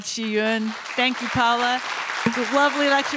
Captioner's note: audience applauding